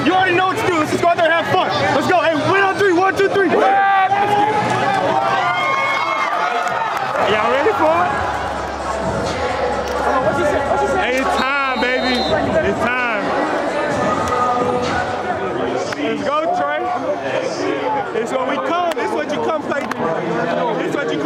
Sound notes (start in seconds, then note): 0.0 crowd noise; 3.4 cheering